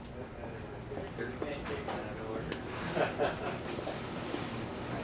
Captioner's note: staff Chattering